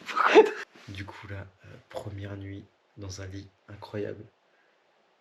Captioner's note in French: Rires